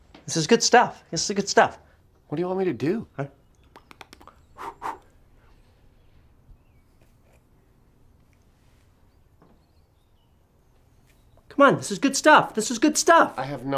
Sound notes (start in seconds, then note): 3.7 makes smacking sound; 4.4 blows